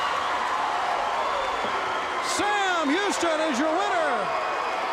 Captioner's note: crowd cheering